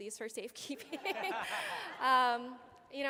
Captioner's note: laughter